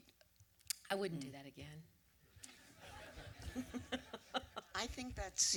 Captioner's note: laughter